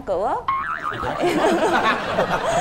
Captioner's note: laughing